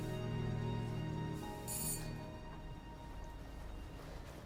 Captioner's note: doorbell rings